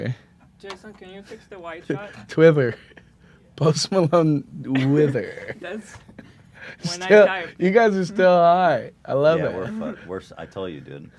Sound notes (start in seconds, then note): 4.7 laughs